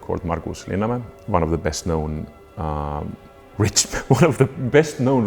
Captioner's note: chuckles